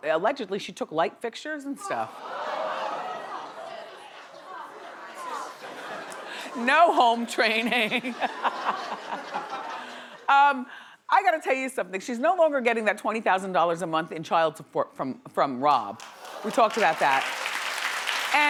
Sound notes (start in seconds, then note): 1.8 audience jeering; 7.3 laughing; 9.8 audience laughing; 16.0 audience clapping